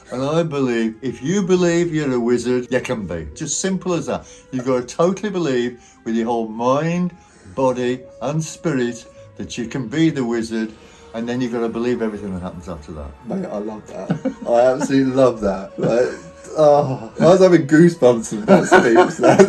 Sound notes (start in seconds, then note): 13.9 laughing